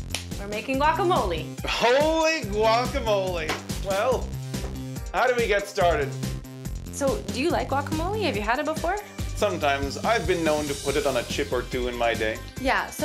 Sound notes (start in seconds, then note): 0.0 clap; 3.4 slap